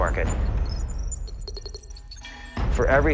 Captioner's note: computer beeps